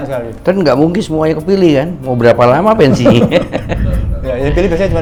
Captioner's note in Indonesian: tertawa